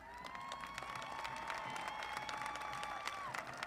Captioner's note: applause